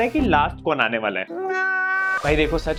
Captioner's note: crying